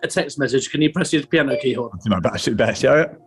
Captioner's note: iPHONE ALERT TONE